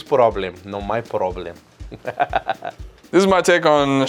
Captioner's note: laughs